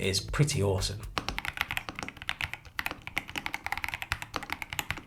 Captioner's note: keyboard clicking